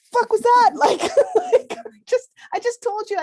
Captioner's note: laughs